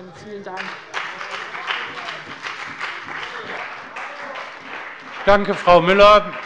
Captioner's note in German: Beifall bei dem BÜNDNIS 90/DIE GRÜNEN und der CDU